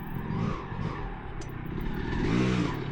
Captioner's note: engine revving